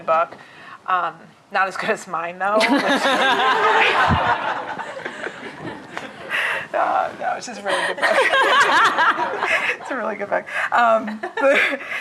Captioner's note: laughter